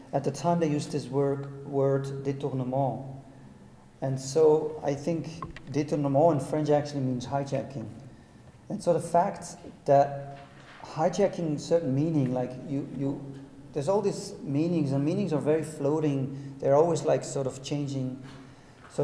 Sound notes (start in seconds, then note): 2.2 speaking in a foreign language